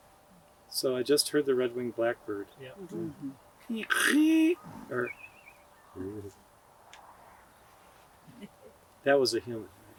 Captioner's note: people making bird sounds